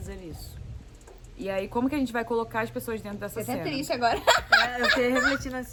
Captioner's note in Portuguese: laughter